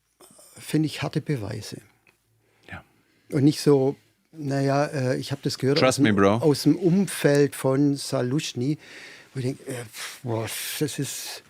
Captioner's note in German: schnauben